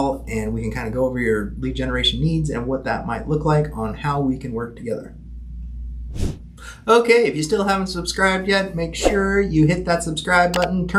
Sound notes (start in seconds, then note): 6.1 air whooshing